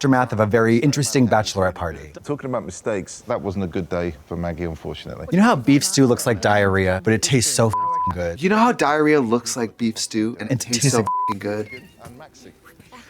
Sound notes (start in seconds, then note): 7.7 beep; 10.8 beep